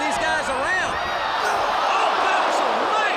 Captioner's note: crowd chatter